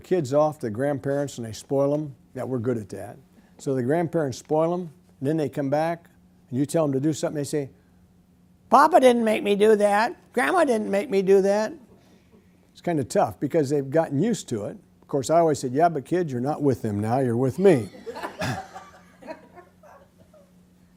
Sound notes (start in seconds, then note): 16.1 audience laughter